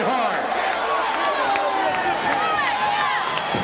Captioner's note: audience cheering